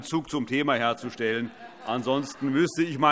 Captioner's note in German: Heiterkeit BÜNDNIS 90/DIE GRÜNEN und vereinzelt SPD